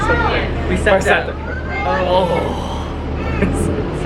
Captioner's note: sigh